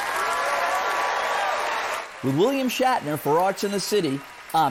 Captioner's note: applaud and cheers